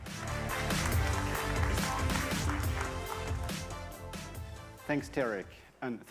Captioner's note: audience applauding; upbeat music